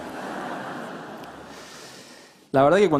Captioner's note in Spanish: Risas